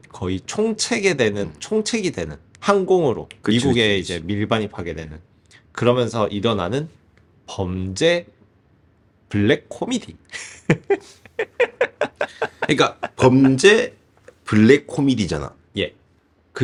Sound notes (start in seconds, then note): 10.4 laughs